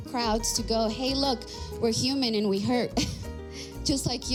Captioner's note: sigh